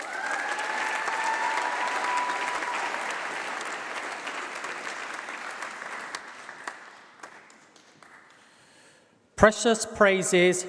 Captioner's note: applause